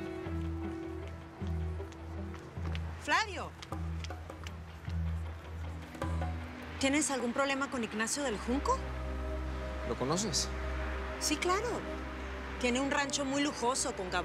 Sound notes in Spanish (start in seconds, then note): 0.2 pasos apresurados